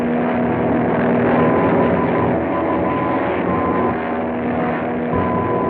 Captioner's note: beeping